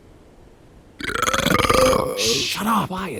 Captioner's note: burps loudly; laughs